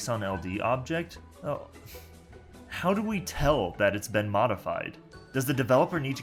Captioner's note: huff